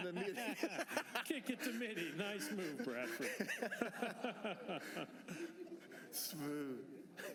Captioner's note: laughter